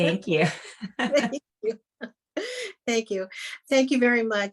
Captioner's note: laughter